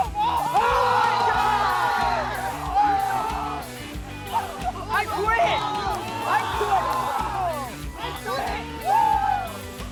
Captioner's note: cheers